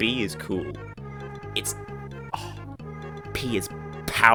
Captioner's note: sigh